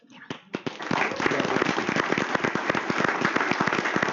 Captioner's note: applause